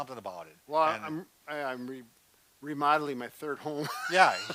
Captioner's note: laughs